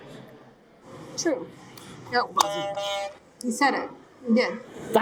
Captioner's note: horn honking